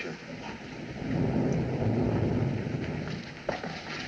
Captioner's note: thunder Rumbling